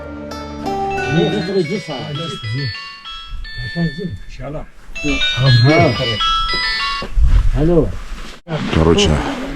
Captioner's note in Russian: звонок мобильного телефона